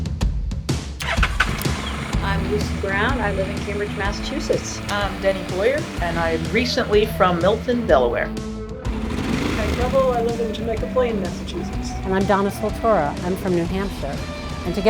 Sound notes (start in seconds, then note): 1.1 engine roaring; 8.5 motorcycle roaring